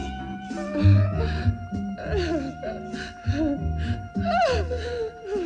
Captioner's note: Kinojo whimpering